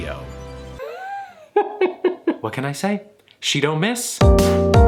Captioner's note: laughs; relaxed music